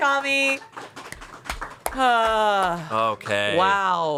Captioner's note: everyone applauds